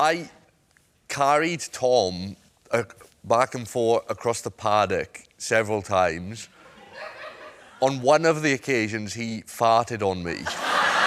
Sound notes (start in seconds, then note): 6.8 smatter of laughter